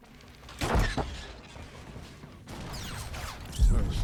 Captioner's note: gunshots; gunshots